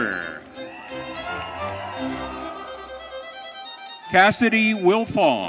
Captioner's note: audience cheering